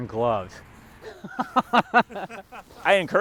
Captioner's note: laughter